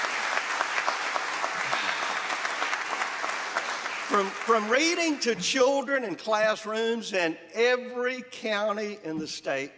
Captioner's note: applause